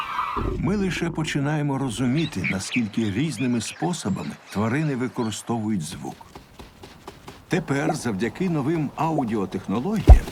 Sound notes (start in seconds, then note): 5.5 thumping